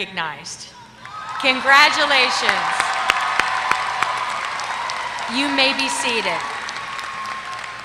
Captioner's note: applause